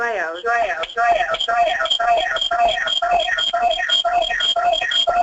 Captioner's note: audio malfunction